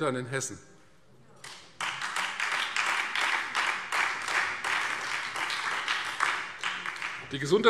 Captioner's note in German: Beifall Freie Demokraten und SPD